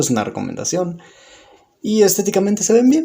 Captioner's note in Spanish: Silencio